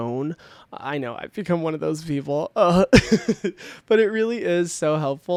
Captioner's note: laughs